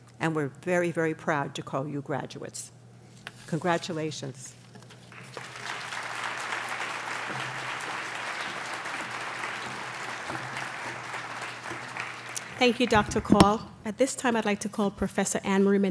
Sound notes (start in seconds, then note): 5.0 applause